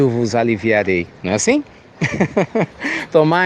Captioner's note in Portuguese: Risos